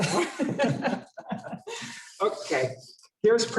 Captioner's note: laughter